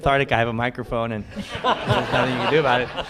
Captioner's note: laughter